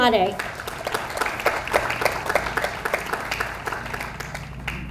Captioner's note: audience applauds